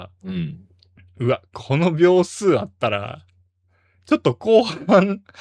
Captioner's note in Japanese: 咳払い